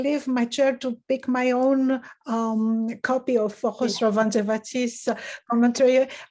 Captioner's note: speaks in foreign language